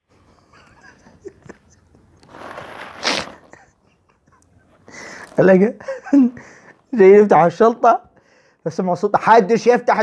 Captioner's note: laughter